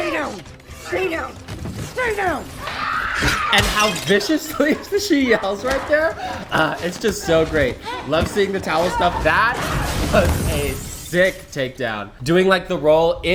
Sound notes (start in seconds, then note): 2.6 Yelena screams; 3.2 plate shatters